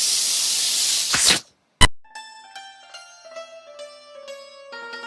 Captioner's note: snake hissing; egyptian music